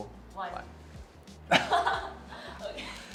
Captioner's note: laughs